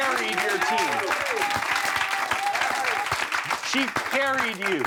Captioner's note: everyone applauding